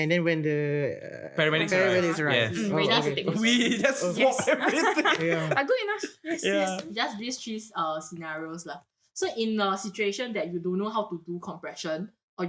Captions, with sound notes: and then when the- - Paramedics arrive, yes. We just swapped everything. [laughs] But good enough, yes. Just these 3 scenarios. So in a situation that you don't know how to do compression